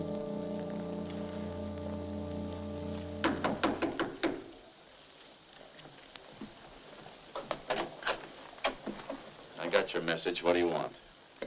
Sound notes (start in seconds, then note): 3.2 knocking on door